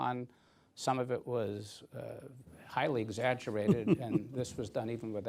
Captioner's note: laughs